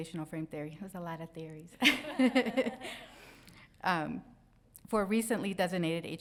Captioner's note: crowd laughs